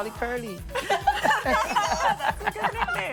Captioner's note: laughter